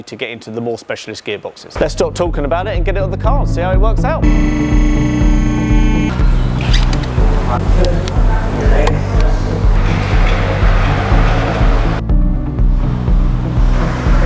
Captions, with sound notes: to get into the more specialist gearboxes. Let's stop talking about it and get it on the cars, see how it works out. (upbeat music) (lift whirring)